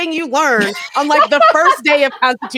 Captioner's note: laughs